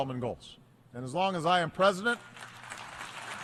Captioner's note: applause